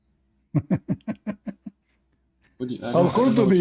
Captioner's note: Ketawa